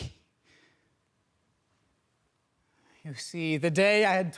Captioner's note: soft breathing